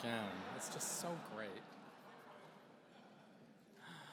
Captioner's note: laughter